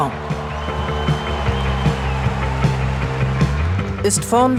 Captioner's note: applause